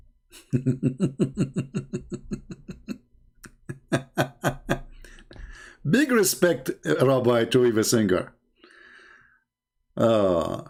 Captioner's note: Ketawa